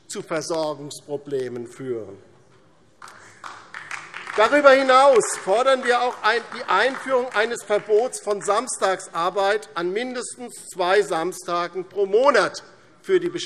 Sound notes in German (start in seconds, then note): 3.0 Beifall DIE LINKE